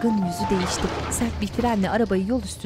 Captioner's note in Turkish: Fren sesi